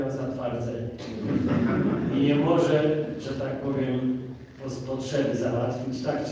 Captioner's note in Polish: śmiech z sali